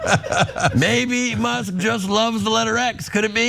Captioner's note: laugh